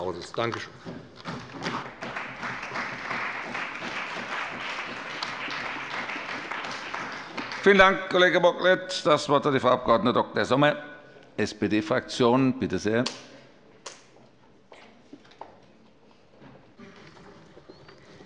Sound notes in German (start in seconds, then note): 1.6 Beifall bei dem BÜNDNIS 90/DIE GRÜNEN und der CDU